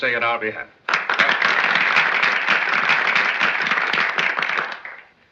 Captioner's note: applause